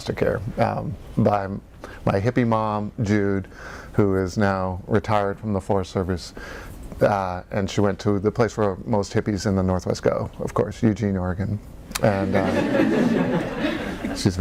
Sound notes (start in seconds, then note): 12.1 audience laugh